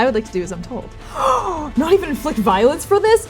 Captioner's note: gasping